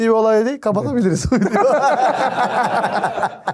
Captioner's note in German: Gelächter